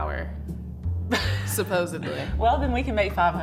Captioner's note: Vivian laughing